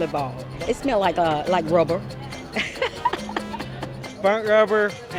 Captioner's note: laughs